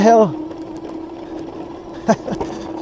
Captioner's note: laughing